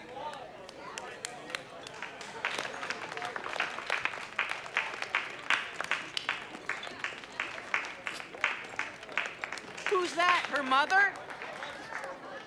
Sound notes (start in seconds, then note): 1.1 weak applause